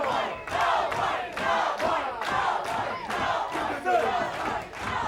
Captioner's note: crowd chants: " "